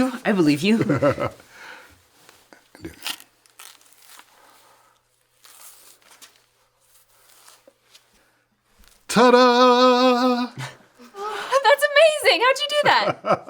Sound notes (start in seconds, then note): 0.8 laughs; 2.8 banana peel cracks; 12.8 laughs